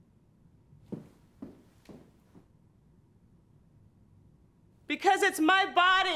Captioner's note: footsteps departing